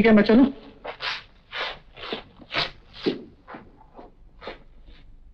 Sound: shoes squeaking

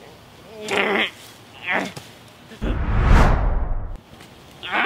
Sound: monster grunts

